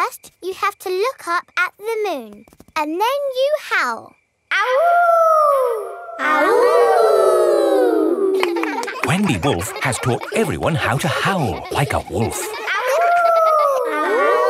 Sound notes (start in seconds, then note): 4.8 howling; 6.6 kids howling; 12.7 howling